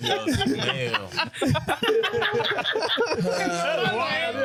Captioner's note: laughing